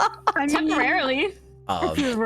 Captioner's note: laughing